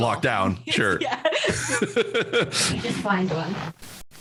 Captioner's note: both laughs